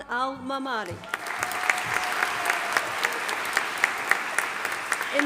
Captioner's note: audience applauding